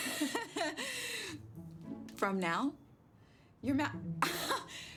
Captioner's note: laughs; laughs